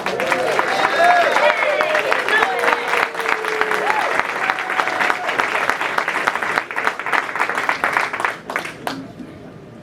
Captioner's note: applause